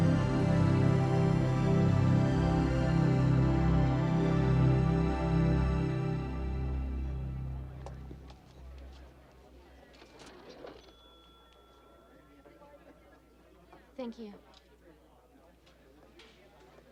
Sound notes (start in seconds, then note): 7.2 crowd chattering; 10.6 register clatters and rings